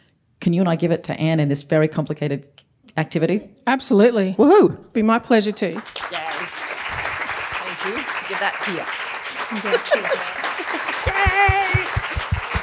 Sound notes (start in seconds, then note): 5.4 applause